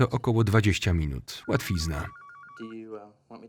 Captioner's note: phone rings